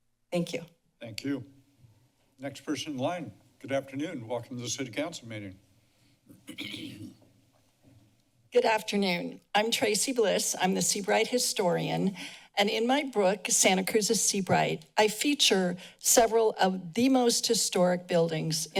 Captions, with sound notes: Thank you. - Thank you. Next person in line. Good afternoon. Welcome to the city council meeting. [clears throat] - Good afternoon. I'm Traci Bliss. I'm the Seabright historian. And in my book, Santa Cruz is Seabright. I feature several of the most historic buildings